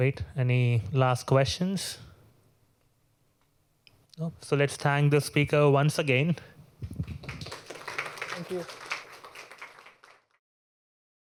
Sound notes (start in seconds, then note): 6.9 applause